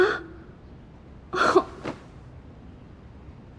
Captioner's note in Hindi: हंसते हुए